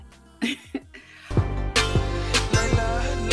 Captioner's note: chuckles